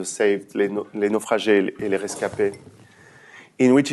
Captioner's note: french